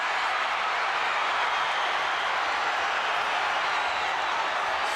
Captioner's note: crowd cheering